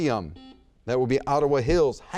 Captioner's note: buzzer beeps